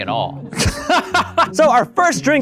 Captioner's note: laughs